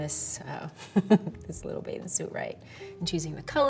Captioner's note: chuckles